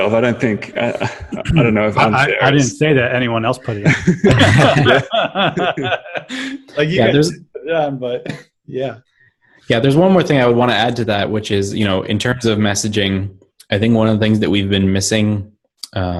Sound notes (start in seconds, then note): 3.6 laughter